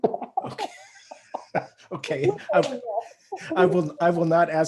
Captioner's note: both laugh